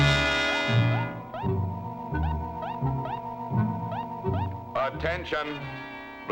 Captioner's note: tense music; machines beeping